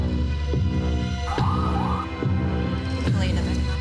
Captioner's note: sirens wailing